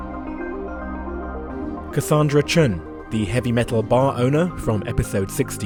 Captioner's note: voiceover